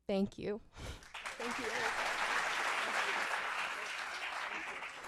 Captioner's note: applause